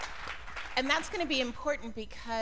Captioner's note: applause; cheers and applause